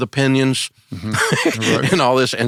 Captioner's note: laughs